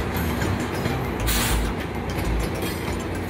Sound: air brakes hissing

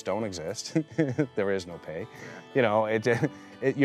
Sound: chuckles

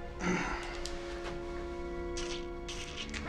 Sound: breathing heavily

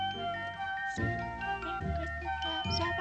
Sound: whispers

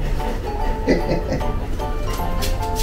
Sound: laughs

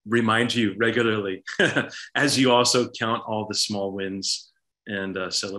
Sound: laughs

